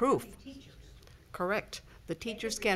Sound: speaking faintly

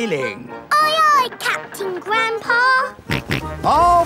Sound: snorts

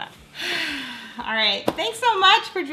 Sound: deep exhale

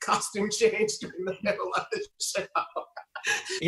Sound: laughing

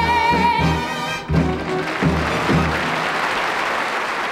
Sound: audience clapping

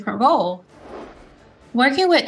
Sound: screen whooshing

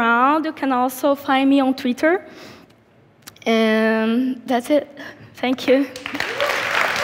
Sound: applause

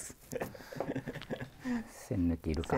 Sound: laughing

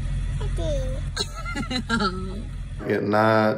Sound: laughs

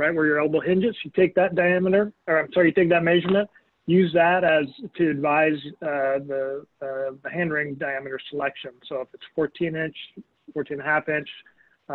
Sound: mic cutting out

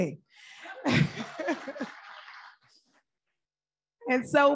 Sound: audience applauding; laughs

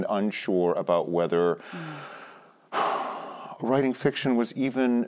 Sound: sighs

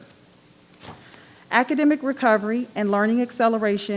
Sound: page rustling

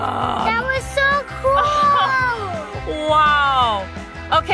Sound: mom laughing

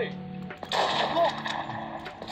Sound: gun Firing Sound

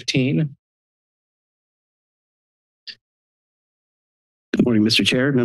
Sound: silence

